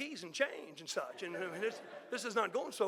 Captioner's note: audience laughing